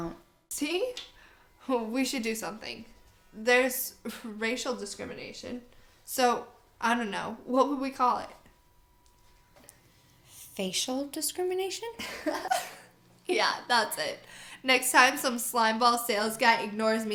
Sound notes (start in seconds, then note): 12.0 giggling